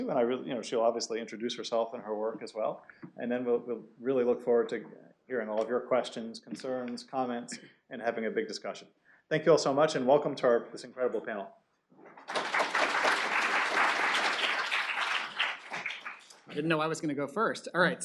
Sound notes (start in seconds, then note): 12.2 applause